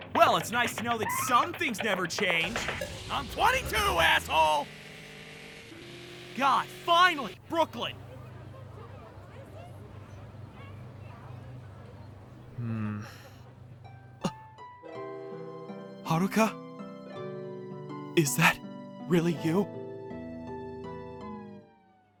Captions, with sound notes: -Well, it's nice to know that some things never change! I'm 22, asshole! God, finally! Brooklyn! Hmmm... [gasp] Haruka? Is that...really you?